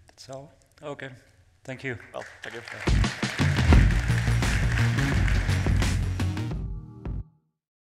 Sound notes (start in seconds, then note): 3.2 audience clapping